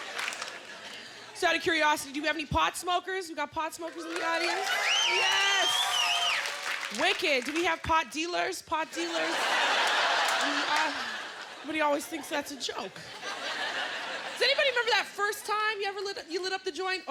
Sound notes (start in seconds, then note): 3.9 cheers and applause; 9.0 laughter